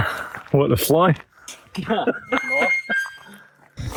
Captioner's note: laughter